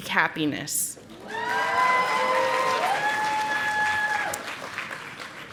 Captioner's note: audience applauding